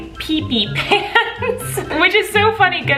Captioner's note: laughing